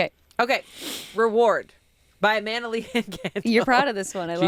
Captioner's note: laughs